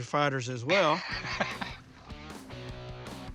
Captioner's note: laughing